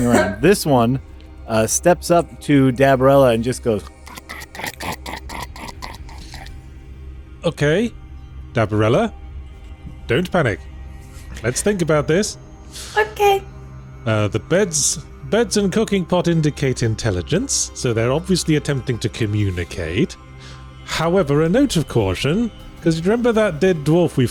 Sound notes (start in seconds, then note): 3.8 highly unpleasant mouth noises courtesy